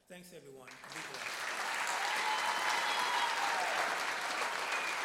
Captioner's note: applause